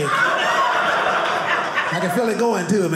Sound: audience laughing

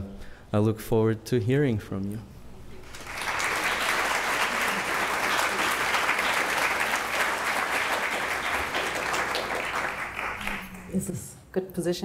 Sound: applause

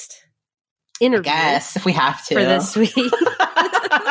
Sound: both laughing

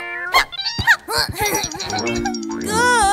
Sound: Risas

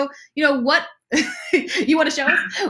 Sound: laughs

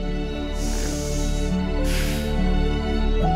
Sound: inhales deeply

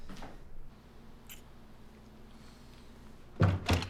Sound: none

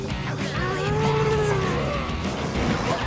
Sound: Mega Wrex roaring

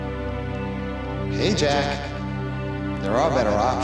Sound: echoing

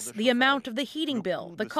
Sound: speaking Foreign Language

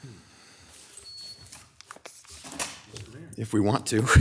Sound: alarm beeping

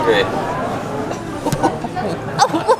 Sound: laughter

